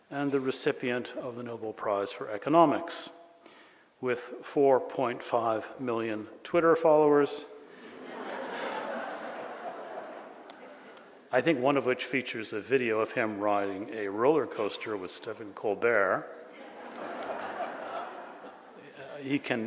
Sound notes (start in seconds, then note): 7.8 audience laughs; 16.5 audience laughs